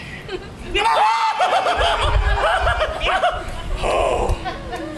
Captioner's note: Bottom shrieks